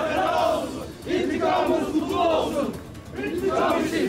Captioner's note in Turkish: Hep bir ağızdan